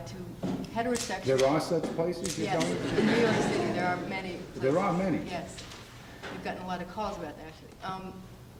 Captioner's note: laughs